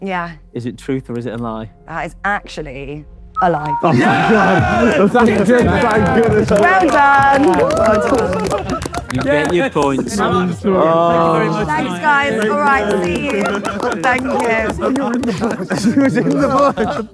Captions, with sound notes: - Yeah. - Is it truth or is it a lie? - It's actually a lie. - Yeah. [crowd cheering] - Well done. - You get your point. - Yes. - Thanks guys. Alright, see you. Thank you.